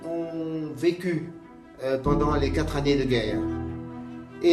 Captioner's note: speaking in French